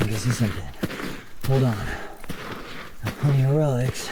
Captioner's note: hand scraping